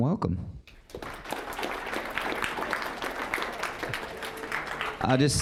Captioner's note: applause